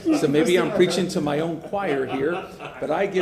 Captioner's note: laughter